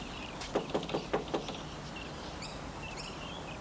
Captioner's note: door thudding